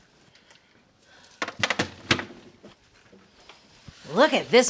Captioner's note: doors banging